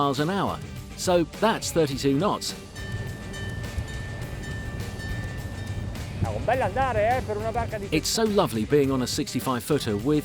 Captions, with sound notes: We're going 37 miles an hour, so that's 32 knots. (bell chiming) It's so lovely being on a 65 footer